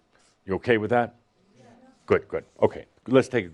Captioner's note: audience agrees